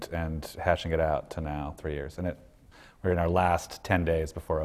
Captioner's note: none